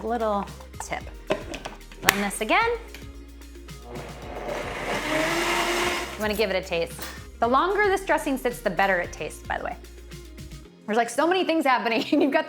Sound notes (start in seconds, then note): 3.8 blender blending